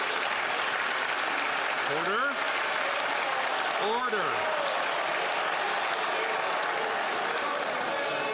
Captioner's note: some Applause